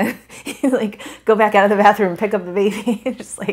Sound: laughs

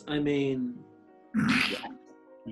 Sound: sniggering

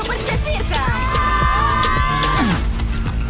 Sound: all yell; propulsive music playing

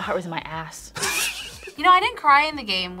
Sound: laughs

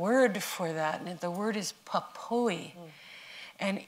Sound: non-english

